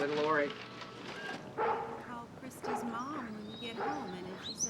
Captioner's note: angus barking